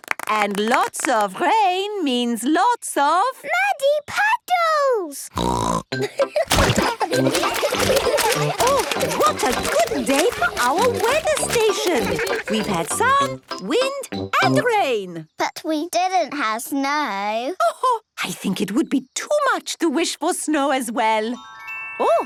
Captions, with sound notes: And lots of rain means lots of? - Muddy puddles! (snorting) (laughter) - Oh, what a good day for our weather station. We've had sun, wind and rain. - But we didn't have snow. - Oh-ho! I think it would be too much to wish for snow, as well.